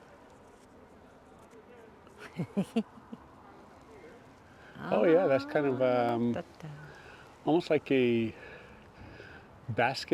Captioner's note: laughter